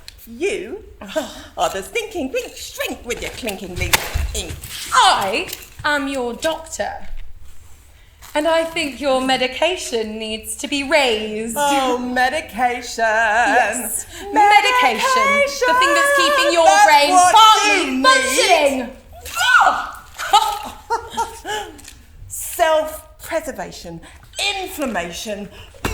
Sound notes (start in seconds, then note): 13.9 sings; 19.0 laughs